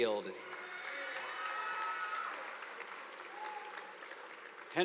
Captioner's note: audience applauding